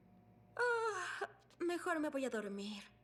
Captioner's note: yawn